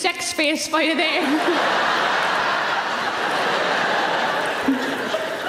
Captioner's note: audience laughing